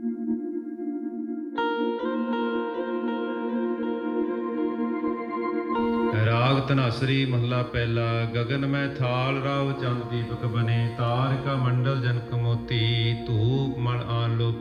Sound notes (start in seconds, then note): 0.3 soft music; 6.4 man praying in Punjabi